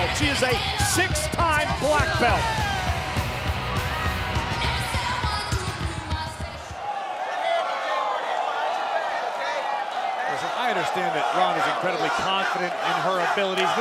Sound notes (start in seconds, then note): 3.9 crowd cheering; 3.9 upbeat music